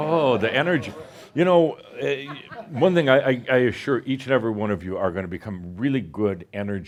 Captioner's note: some chuckles